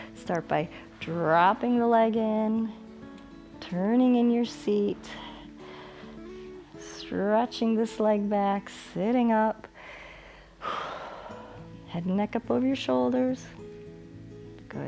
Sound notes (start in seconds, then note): 9.7 inhales and exhales